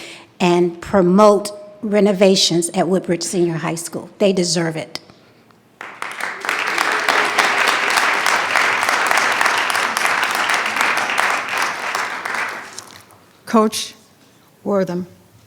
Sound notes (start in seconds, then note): 5.7 attendees clapping